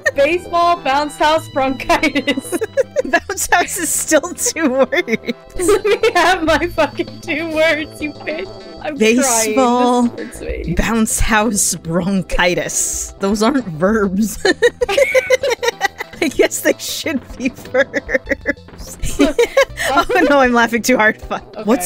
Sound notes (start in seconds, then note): 14.4 both laughing